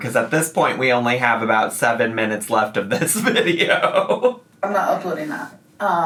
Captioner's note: laughs